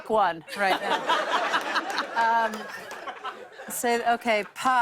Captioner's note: laughter